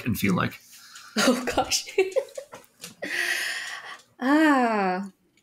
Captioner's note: chuckling